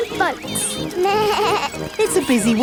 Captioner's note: bleats